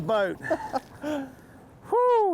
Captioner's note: laughs